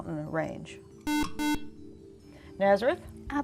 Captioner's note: buzzer